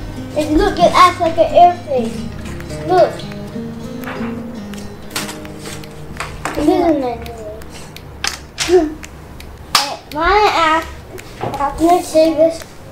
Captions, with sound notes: look, it act like an airplane look! *clap* can I save this?